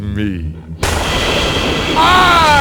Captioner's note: thunder